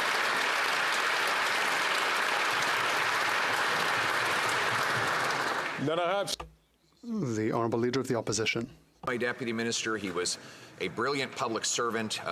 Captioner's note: applause